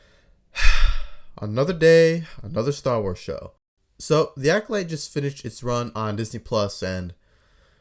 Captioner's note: sigh